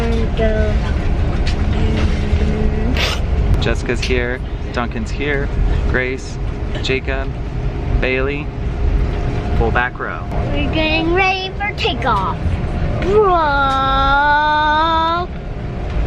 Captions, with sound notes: We're gonna go. - Jessica's here, Duncan's here. Grace, Jacob, Bailey, full back row. - We're getting ready for takeoff (takeoff noise).